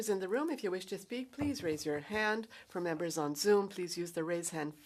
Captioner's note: speaking French